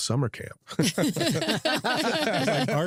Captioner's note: laughter